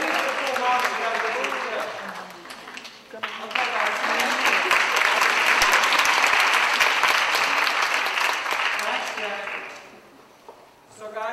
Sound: applause

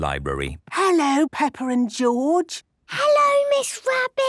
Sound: whispering

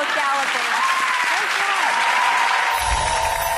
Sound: applause

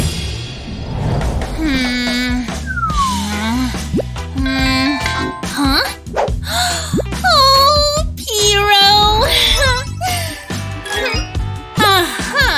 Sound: making irritated sounds

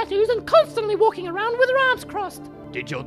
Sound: none

